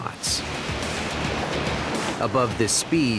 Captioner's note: waves crashing; intense music